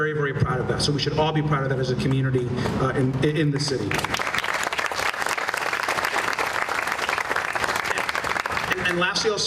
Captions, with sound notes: AND WE'RE VERY VERY PROUD OF THAT SO WE SHOULD ALL BE PROUD OF THAT AS A COMMUNITY IN THE CITY. [ APPLAUSE ]